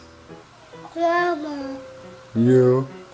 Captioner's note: baby talks